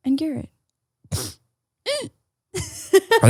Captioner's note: sniffs